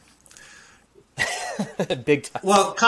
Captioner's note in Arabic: يضحك